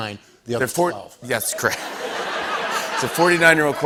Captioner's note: laughter